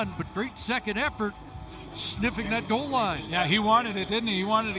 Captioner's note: whistle